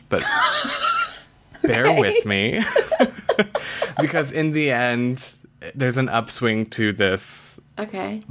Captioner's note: laughs; laughs